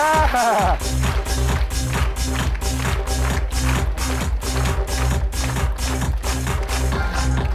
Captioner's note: audience clapping; upbeat music continues